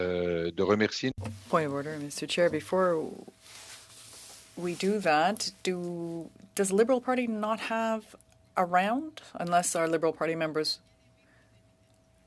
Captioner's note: speaking French